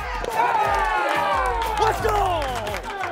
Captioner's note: cheering